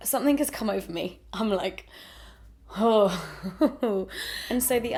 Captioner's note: breathes out; laughs nervously